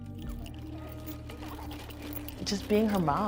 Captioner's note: rattling and giggling